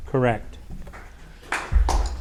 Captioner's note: audience applauding